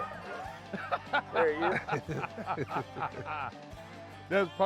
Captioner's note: hunters laughing